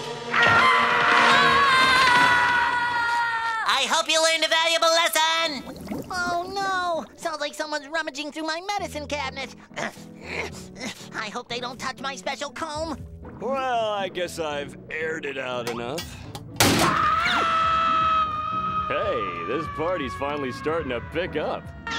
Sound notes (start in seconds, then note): 0.2 screaming; 9.7 grunting; 16.8 screaming